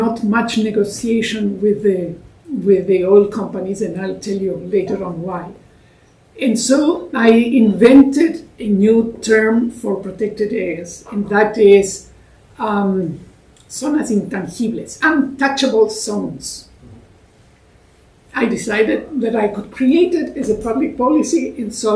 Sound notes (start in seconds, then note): 13.2 spanish